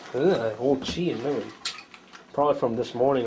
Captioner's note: light splash